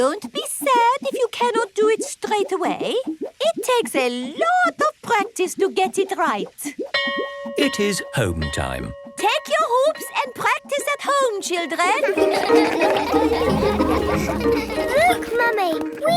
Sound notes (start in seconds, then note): 7.0 bell rings; 11.9 all laugh